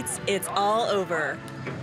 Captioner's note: horns honking